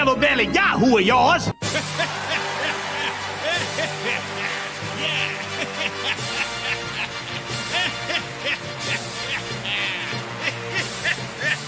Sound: applause

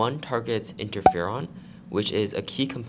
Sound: pop

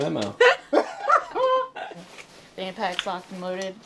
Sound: laughs

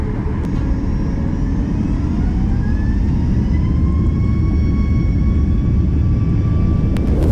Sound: engine noise ramps up

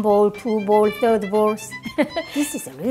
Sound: laughs

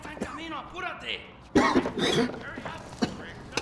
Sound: Paul coughing

